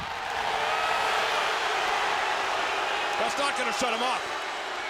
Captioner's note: crowd boos